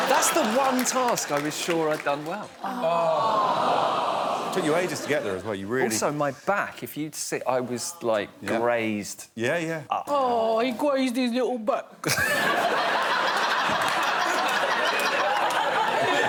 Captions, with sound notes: That's the one task I was sure I’d done well. [audience reacts sympathetically] -Took you ages to get there, as well. You really-- -Also, my back. If you'd seen... I was, like, grazed... Up. Oh. He grazed his little back.